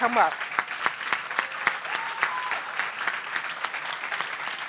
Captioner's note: applause